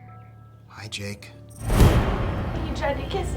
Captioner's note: startling tone